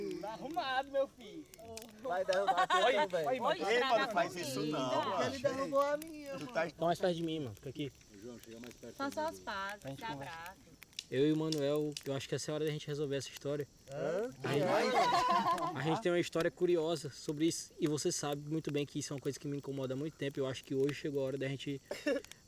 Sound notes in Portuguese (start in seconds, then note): 14.6 todos riem